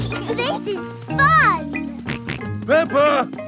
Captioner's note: both laughing; george snorts